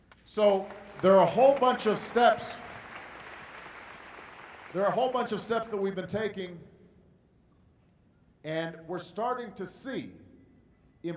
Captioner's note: applause